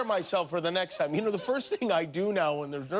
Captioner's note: laughter